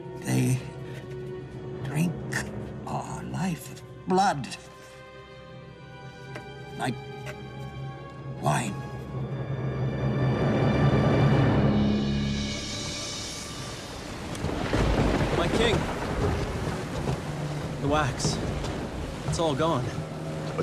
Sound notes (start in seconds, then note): 9.7 dramatic suspenseful music; 13.5 thunder crashing